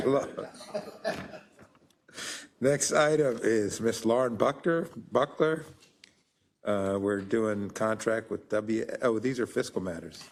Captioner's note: laugh